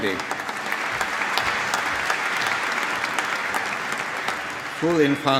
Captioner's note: applause